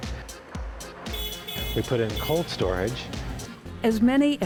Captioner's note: fork lift honking